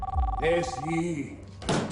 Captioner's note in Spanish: Suena el teléfono